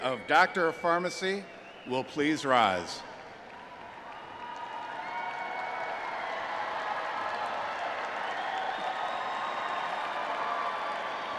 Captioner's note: applause